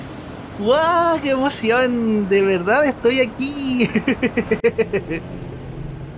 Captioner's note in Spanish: risas